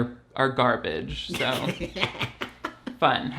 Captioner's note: laughs